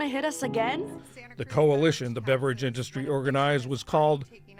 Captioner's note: voice-over